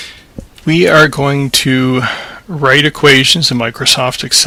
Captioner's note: voiceover